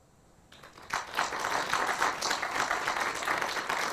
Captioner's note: applause